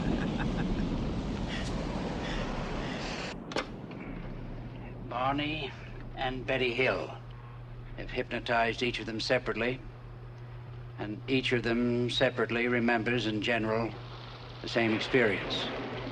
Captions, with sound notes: (laughs) (tape recorder clicks) - Barney and Betty Hill. I've hypnotized each of them separately, and each of them separately remembers, in general, the same experience.